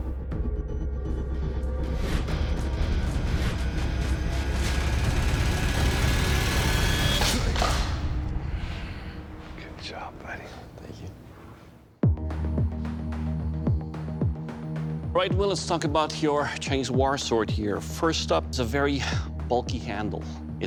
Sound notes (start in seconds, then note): 8.9 whispering